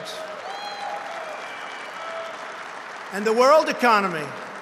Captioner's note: applause